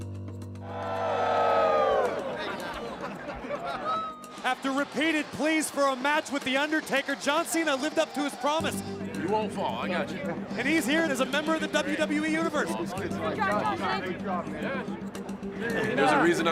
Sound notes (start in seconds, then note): 0.6 crowd cheering